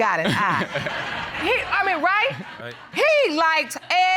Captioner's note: audience laughing